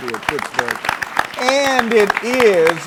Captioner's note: all applauding